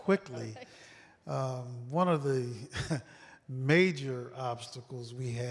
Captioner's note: laughter